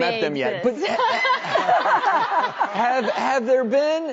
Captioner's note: laughing